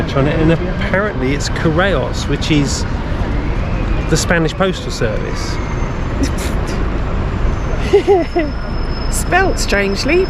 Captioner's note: laughs